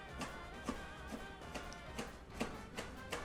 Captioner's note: chopping